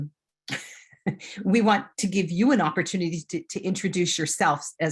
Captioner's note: chuckles